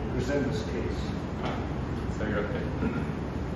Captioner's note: clears throat